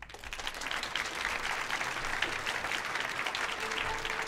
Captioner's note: audience applauds